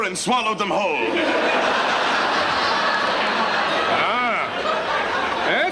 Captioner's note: audience laughs